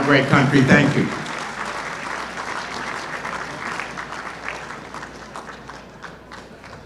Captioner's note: applause